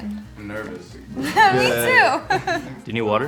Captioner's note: all laughing